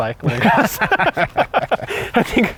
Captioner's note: laughs